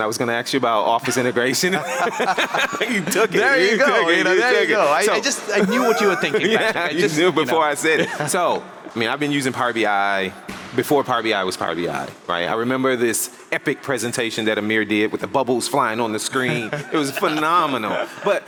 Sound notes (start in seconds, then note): 1.6 laugh; 6.3 laughs; 7.8 laughs; 16.4 laughs